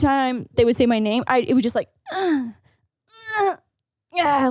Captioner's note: grunts